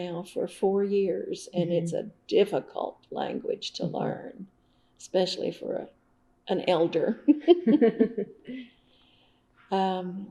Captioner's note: laughs